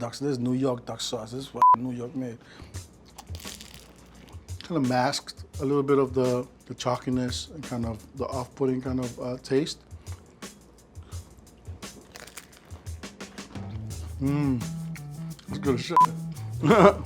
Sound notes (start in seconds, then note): 3.0 egg roll crunching; 10.2 upbeat beat; 11.6 egg roll crunching; 16.6 laughing